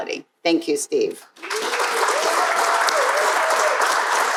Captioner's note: crowd applauding